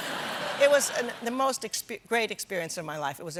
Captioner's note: laughter